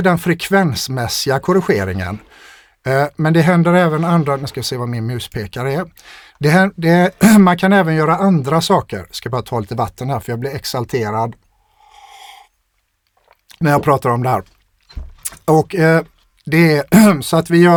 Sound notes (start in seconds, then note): 6.9 clears throat; 16.9 clears throat